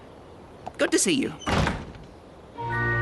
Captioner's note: door closes